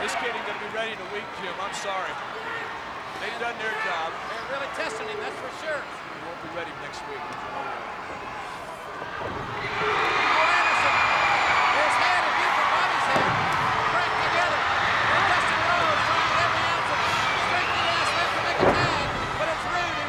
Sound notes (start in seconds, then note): 10.2 crowd cheers